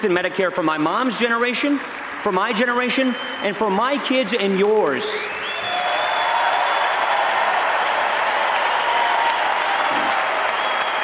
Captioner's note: applause